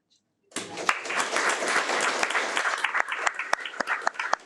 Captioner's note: audience applauding